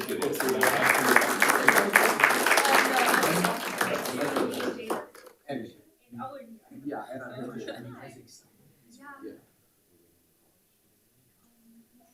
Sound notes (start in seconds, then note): 0.0 audience applauding; 5.3 people chattering